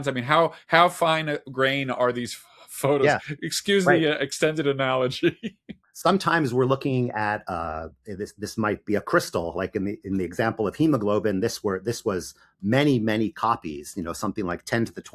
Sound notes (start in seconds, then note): 3.0 laughs